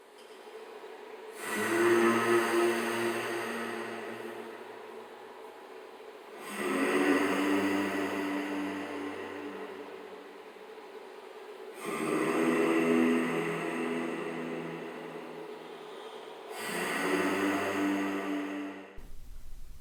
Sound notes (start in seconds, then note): 1.7 humming; 16.7 humming